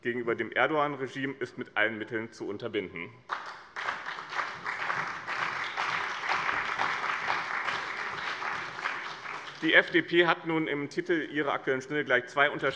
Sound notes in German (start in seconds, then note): 3.2 Beifall bei dem BÜNDNIS 90/DIE GRÜNEN und der CDU